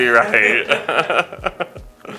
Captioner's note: all Laugh